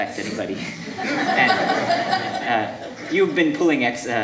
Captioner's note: audience laughing